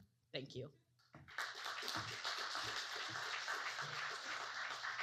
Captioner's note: audience clapping